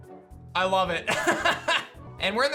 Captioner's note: laughs